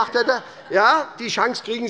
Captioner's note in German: Heiterkeit des Abg